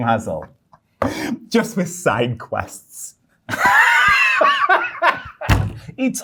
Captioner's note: guy laughing